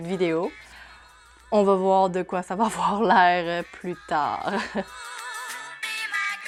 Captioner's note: laughs